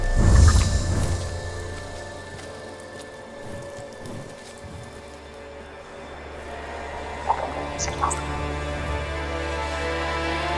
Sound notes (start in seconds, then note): 0.0 whooshing; 7.3 robot chirping